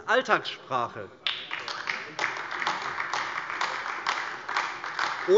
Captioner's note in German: Beifall AfD